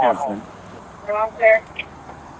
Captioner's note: radio chatter